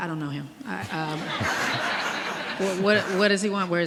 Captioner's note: audience laughing